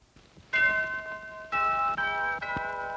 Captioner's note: bell ringing